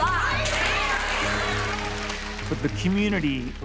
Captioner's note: audience cheering and applauding